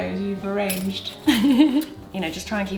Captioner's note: laughs